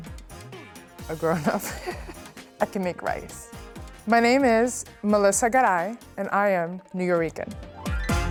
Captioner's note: laughs